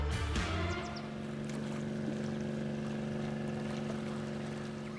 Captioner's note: upbeat music; boat engine rumbling